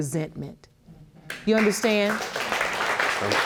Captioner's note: audience applauding